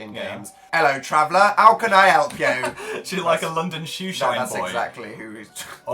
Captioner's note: cockney accent; laughs; chuckling